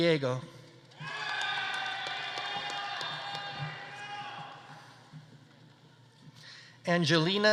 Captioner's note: audience applauding; audience cheering